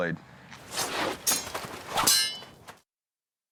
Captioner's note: swords clanging